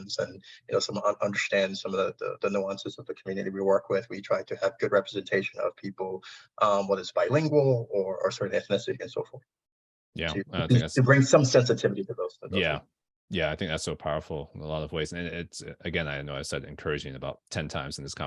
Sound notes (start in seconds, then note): 12.4 audio distortion